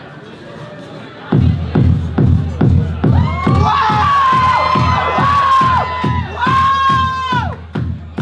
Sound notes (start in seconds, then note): 3.0 the crowd screaming